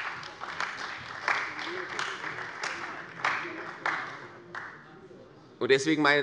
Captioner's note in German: Beifall bei der CDU und dem BÜNDNIS 90/DIE GRÜNEN